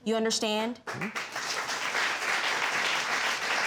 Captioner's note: audience clapping